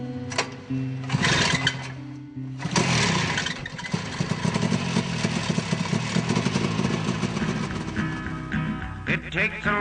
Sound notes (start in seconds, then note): 0.2 voiceover; 2.5 engines starting